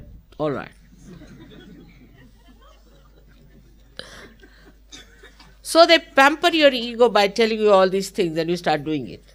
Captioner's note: Shri Mataji laughing & laughter